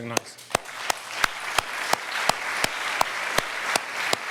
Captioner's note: audience applauding